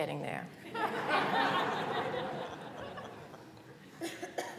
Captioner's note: laughter